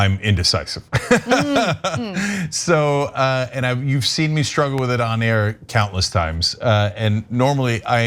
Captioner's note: laugh